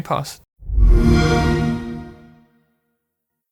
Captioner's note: Xbox Sound